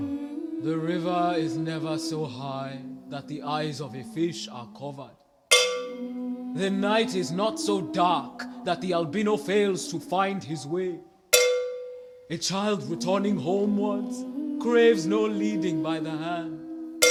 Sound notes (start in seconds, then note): 12.5 humming